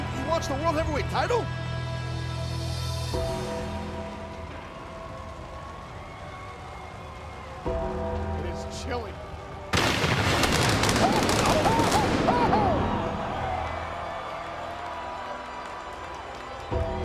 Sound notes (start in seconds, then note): 3.5 audience cheers; 4.4 ominous music continues; 10.2 lighting rumbles; 11.1 lighting buzzes; 13.5 audience cheers; 16.8 ominous music continues